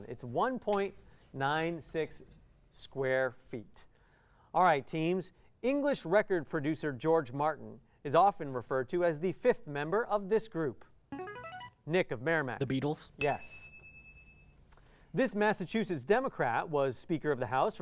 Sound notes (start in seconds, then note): 11.2 player buzzer; 13.2 ding